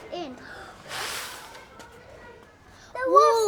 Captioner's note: blows